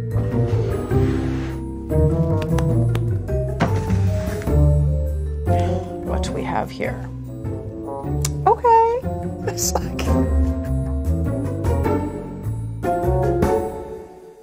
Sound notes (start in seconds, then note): 2.3 clapping hands; 3.6 box sliding; 10.3 laughing; 11.3 mischievous music